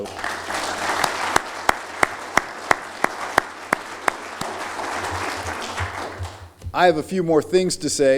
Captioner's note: applause